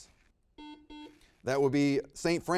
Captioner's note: buzzer beeps